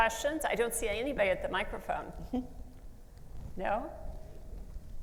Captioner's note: laughs